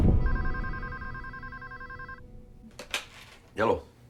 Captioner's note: phone ringing